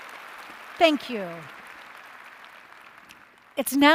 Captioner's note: applause